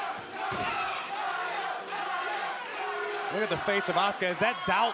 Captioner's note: crowd cheering